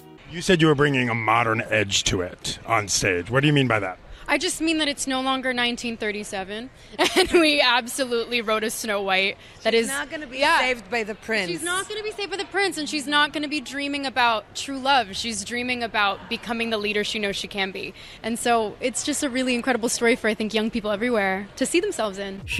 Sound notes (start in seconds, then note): 6.9 laughs